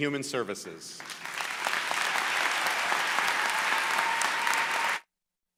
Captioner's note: applause